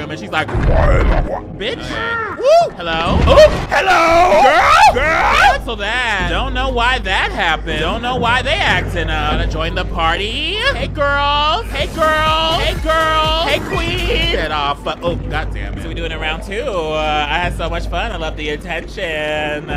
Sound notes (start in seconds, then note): 0.5 character groans; 1.8 grunting; 13.9 upbeat music